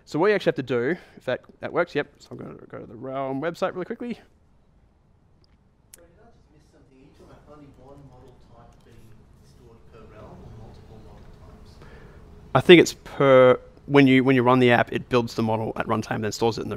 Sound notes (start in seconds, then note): 6.1 voiceover